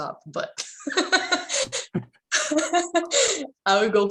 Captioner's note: laughs